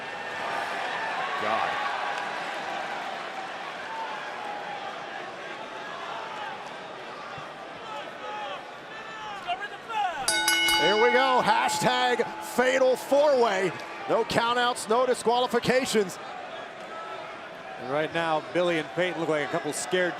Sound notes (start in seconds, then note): 1.8 crowd chatter; 10.2 bell ringing